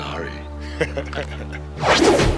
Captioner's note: laughin